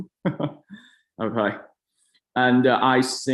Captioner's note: chuckles